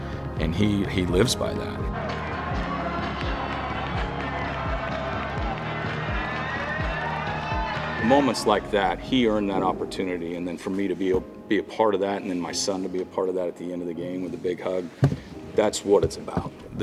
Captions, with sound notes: And he lives by that. (upbeat music) (crowd clapping) Moments like that, he earned that opportunity. And then for me to be a part of that and then my son to be a part of that at the end of the game with a big hug, that's what it's about.